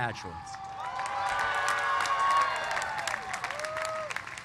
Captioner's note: cheers and applause